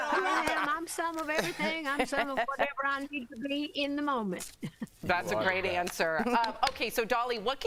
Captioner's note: laughter